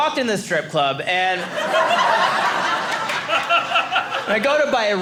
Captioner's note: audience laughing